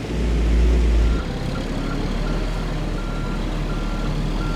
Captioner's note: truck beeps